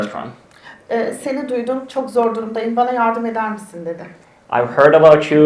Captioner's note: speaks in Turkish